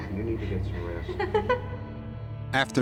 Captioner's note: laughter